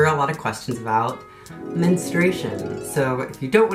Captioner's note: Spongebob imagination voice